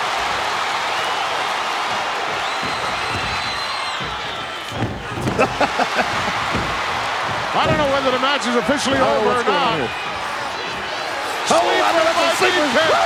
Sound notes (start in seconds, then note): 0.1 audience cheering; 5.5 hillbilly chuckling